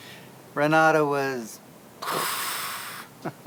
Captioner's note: makes a growling noise